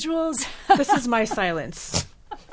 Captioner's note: laughing